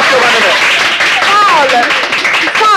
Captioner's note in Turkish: Alkışlar